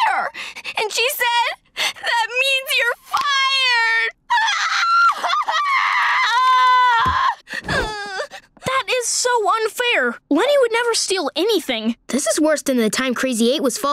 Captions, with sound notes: and she said, 'That means you're fired!' [crying] That is so unfair. Leni would never steal anything. This is worse than the time Crazy 8 was falsely accused